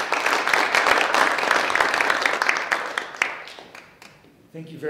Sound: audience applauding

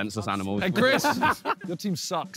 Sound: laughter

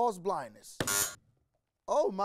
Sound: buzzer rings

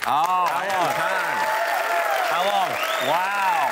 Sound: cheering and whistling

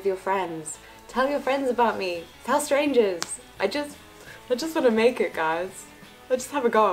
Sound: jokingly

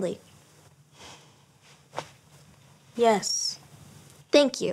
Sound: sighing

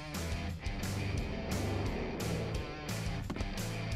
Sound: whooshes; wind blowing

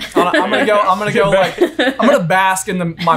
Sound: laughing

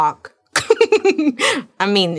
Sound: laughing

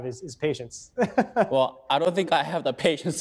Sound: laughing

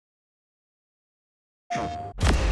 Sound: playstation sound

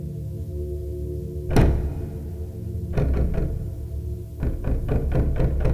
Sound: security guard pounding on door

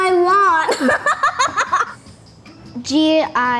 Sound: laughs

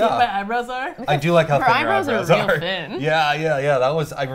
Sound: laughs

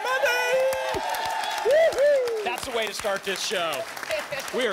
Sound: applause and cheering cont

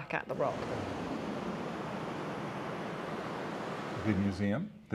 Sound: waves crashing

